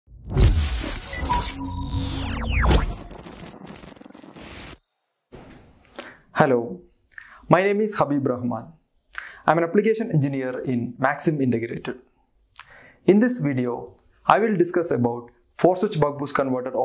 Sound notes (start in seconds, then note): 0.4 buzzing; 1.9 static crackles